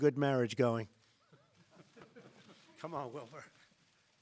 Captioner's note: laughter